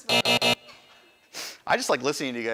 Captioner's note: buzzer